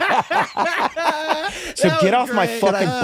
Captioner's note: guys laughing